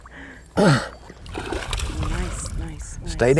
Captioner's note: splash